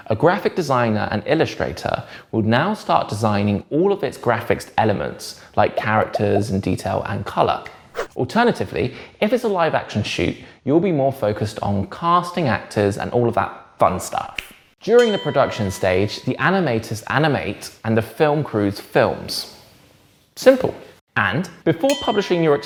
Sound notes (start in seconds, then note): 5.7 bubbles popping; 8.0 page whips; 14.4 snaps; 14.9 bell dings; 21.9 bell dings